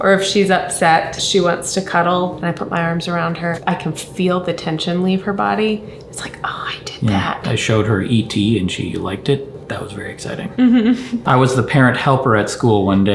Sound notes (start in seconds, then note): 10.5 giggles